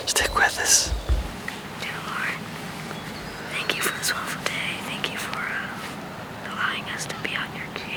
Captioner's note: whispering